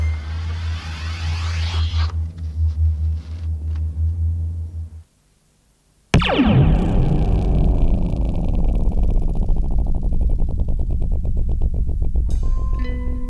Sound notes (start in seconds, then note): 6.1 drop pod launching sound